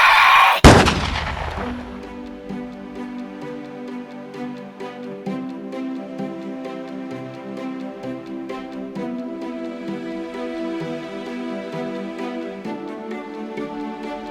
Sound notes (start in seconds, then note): 0.6 gun fires; 4.1 midtempo orchestral music